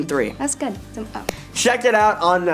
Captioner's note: clap